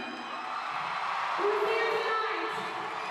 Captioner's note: cheering